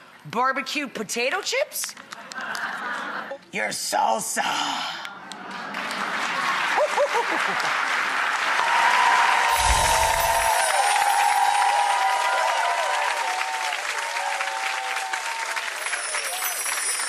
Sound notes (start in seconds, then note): 2.2 audience laughs; 5.0 audience applauds